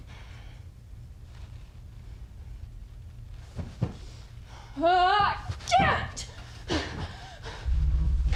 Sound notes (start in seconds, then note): 4.7 Hannah shouting